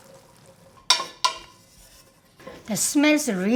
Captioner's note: spoon clanks on pot